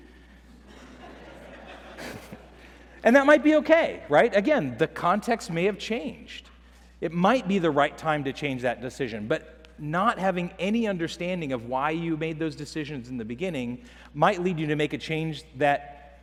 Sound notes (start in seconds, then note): 0.5 laughter